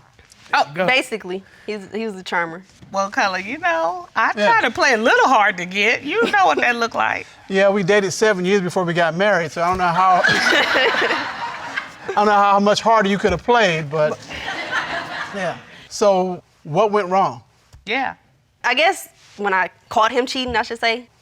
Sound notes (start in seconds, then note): 10.2 all laughing; 14.0 audience laughs